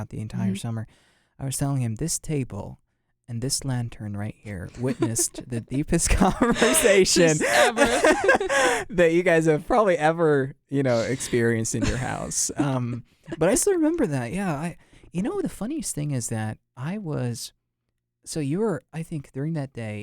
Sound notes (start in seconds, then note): 6.0 both laugh